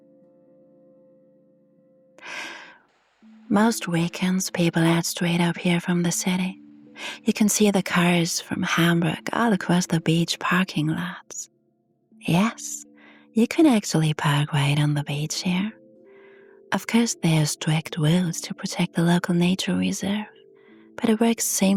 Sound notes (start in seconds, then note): 2.2 sighs